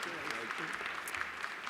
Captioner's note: applause